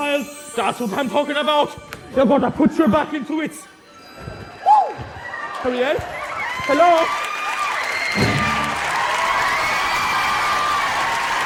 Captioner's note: cheering